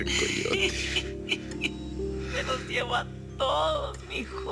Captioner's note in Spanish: Risas